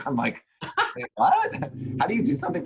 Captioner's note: laughs